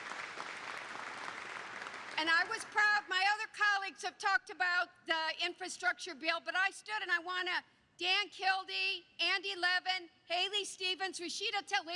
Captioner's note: applause